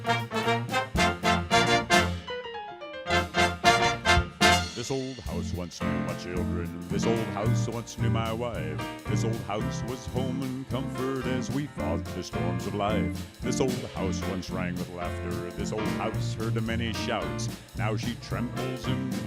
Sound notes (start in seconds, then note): 2.9 in deep bass voice